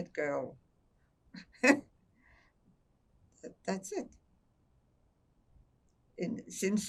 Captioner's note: laughing